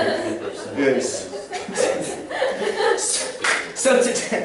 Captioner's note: laughter